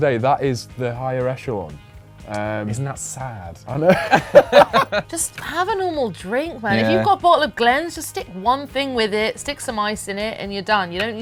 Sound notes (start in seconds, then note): 3.9 laughs